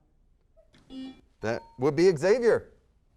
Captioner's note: buzzer sounds